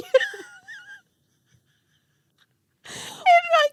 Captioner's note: laughing